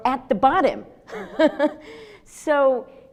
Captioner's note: laughs